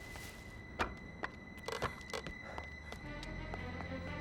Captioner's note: boards creaking